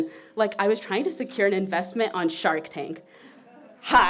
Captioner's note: laughter